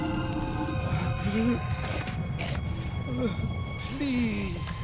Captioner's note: gasping